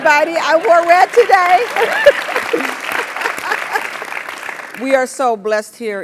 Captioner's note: laugh; applause